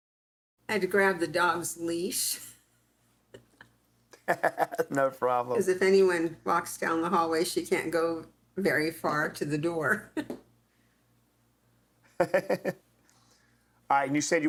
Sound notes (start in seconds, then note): 3.4 laughs; 12.1 chuckles